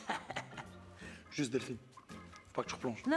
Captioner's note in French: rire